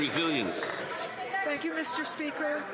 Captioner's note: some Applause